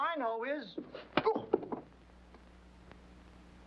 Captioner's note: whack